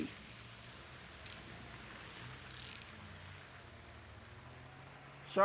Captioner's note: handcuffs tightening